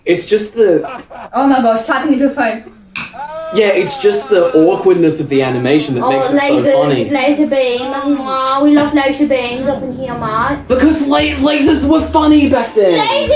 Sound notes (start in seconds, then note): 1.0 Homestar laughs; 2.3 random Guy wails; 7.5 kisses; 7.8 Random Guy grunts